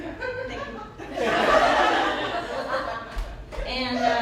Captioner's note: laughter